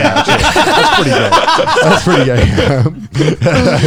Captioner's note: both laughing